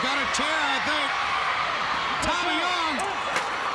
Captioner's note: crowd cheering